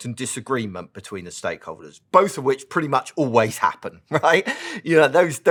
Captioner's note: laugh